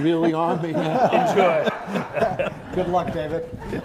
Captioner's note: crowd laughing